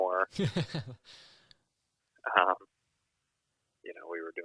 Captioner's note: laughs